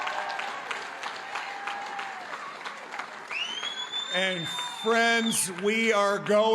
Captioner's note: cheering and applause